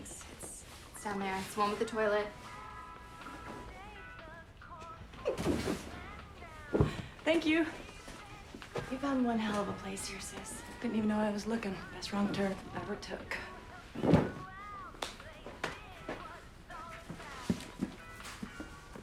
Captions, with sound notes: It's, it's, it's down there. It's one with the toilet. (box thudding) - Thank you. - You found one hell of a place here, sis. - Didn't even know I was looking. Best wrong turn ever took. (hands smacking)